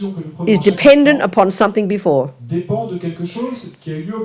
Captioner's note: speaking in French